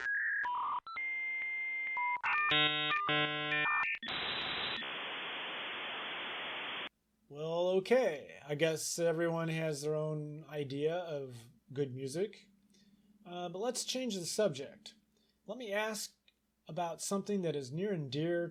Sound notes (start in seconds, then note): 2.0 modem Connection Sound